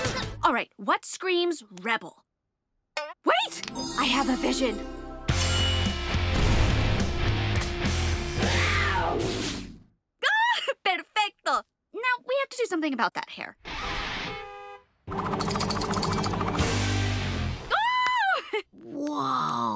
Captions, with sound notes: All right, what screams rebel? Wait. I have a vision. [cat screeching] Ah. Perfecto. Now we have to do something about that hair. [honking] Ah! Whoa.